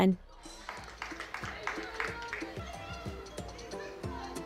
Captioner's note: clapping and shouts of the crowd